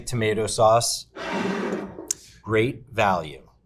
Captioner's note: jar scraping